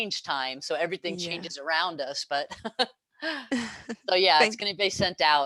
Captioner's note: laugh